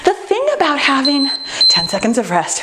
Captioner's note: timer beeping